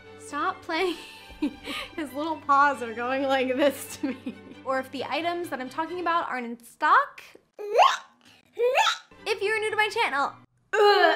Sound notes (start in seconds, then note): 1.4 chuckles; 7.7 bleches